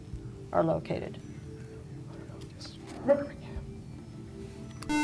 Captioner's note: whispering